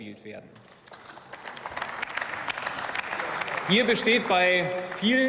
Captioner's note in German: Beifall